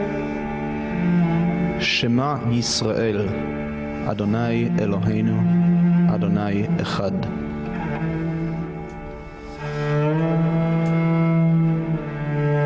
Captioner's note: reading in Hebrew